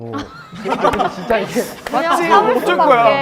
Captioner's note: ha ha ha